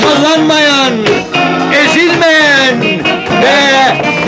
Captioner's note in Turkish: Telaşlı insanların gürültüsü